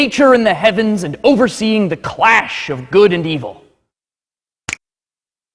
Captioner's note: snaps